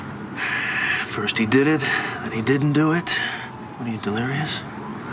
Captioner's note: sighs